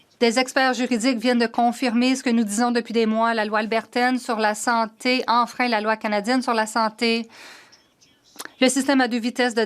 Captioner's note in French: voix de l'interprète